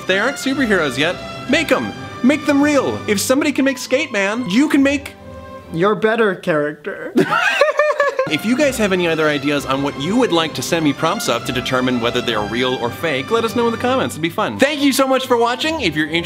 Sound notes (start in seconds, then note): 7.1 both laugh